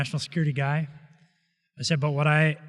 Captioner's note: none